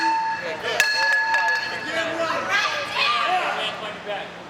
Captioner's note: pipe clanging